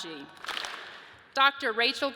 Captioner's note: audience claps